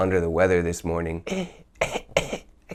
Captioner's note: cough